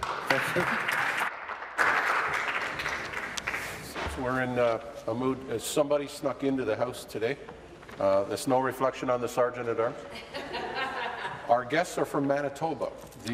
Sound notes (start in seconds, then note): 4.4 applause